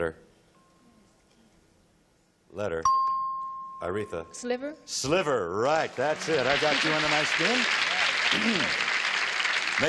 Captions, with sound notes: Letter. Letter. [dings] Aretha. - Sliver? - Sliver, right. That's it. I got you under my skin. [applause]